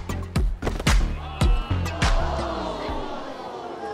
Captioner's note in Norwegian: publikum stønner